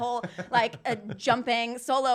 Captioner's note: laughing